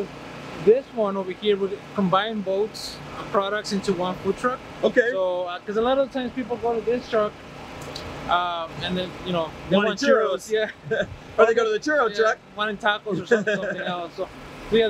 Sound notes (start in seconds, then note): 9.8 laughs